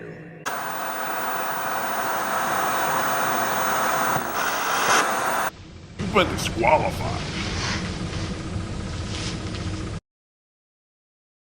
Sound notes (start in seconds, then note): 0.4 static hissing